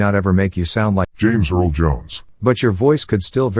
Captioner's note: super deep voice